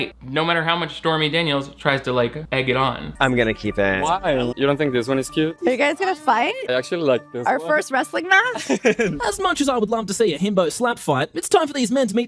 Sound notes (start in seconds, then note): 8.5 person laughs